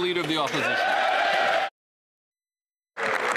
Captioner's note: applause